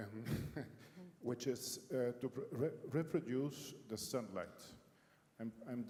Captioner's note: laugh